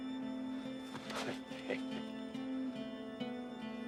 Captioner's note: chuckles